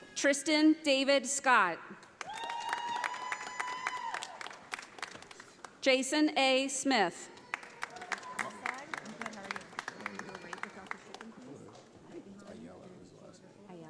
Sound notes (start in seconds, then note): 2.1 audience applauding; 7.3 audience applauding